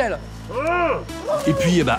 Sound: grunted reply

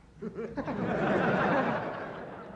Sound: laughter

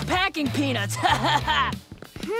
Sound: laughing

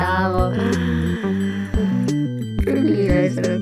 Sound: inhale of euphoria

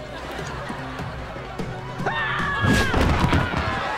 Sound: screaming

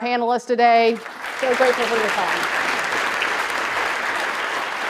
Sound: audience claps

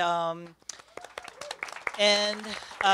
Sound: cheers and applause

